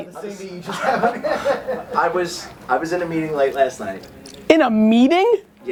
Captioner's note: laughs